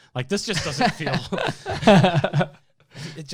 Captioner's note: hosts laughing